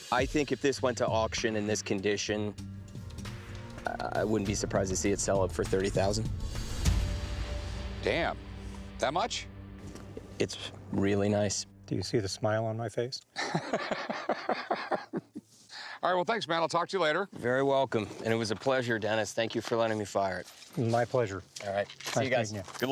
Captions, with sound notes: I think if this went to auction in this condition, I wouldn't be surprised to see it sell it for 30,000. Damn, that much? It's really nice. Do you see the smile on my face? [CHUCKLING] All right, well, thanks, man. I'll talk to you later. You're very welcome. And it was a pleasure, Dennis. Thank you for letting me fire it. My pleasure. - All right, see you guys. - Nice meeting you.